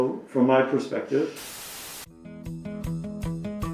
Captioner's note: static crackles; bright music